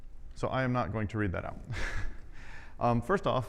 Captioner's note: laughs